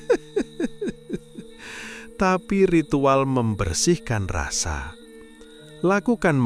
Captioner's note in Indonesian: tertawa